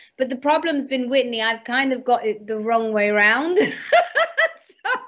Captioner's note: laughs